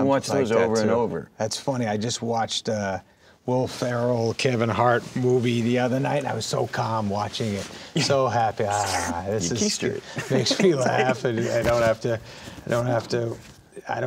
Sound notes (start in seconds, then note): 8.6 sucking; 8.7 sighs